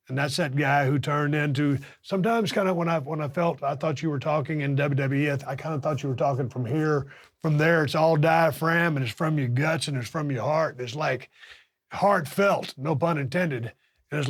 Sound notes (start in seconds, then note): none